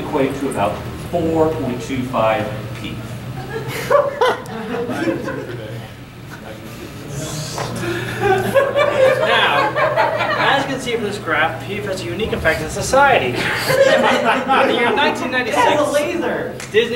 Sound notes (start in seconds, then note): 3.2 audience laughing; 13.7 audience laughing